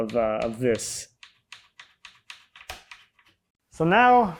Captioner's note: wood clicking